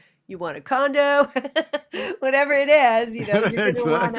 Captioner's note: laughter